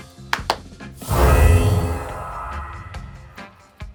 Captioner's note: claps Twice; spellcasting Sound